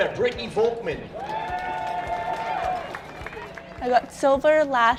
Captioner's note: audience cheers